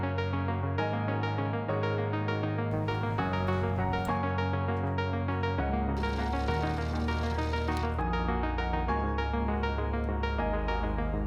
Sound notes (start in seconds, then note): 6.0 tape whirring; 8.5 bright music